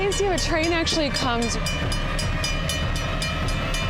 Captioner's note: train alarm clanging